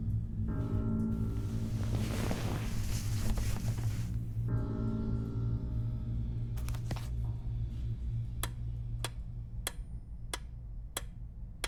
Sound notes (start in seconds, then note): 1.1 bed sheets rustle; 2.0 gentle, menacing music; 8.5 metronome clicking